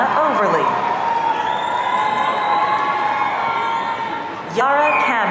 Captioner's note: audience cheering